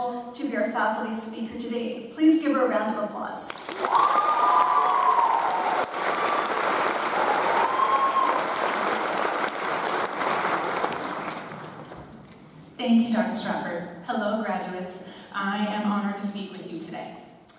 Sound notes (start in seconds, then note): 3.5 audience applauds; 3.6 audience cheers